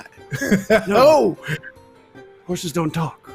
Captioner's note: laughs